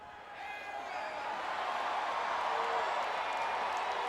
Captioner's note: crowd cheering